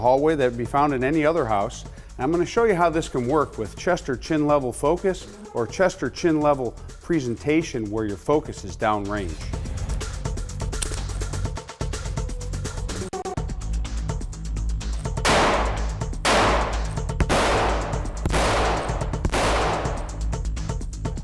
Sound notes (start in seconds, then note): 10.4 dramatic music; 15.1 gun shots ring out